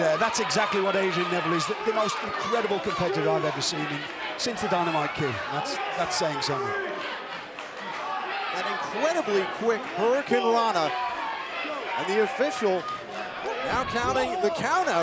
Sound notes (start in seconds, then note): 6.8 crowd cheering